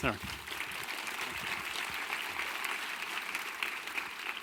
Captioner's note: audience applause